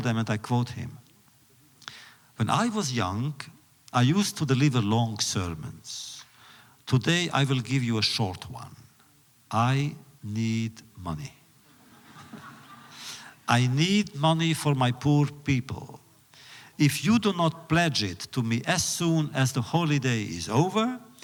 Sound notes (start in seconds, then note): 11.7 laughter